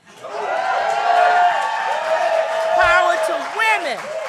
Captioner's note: applause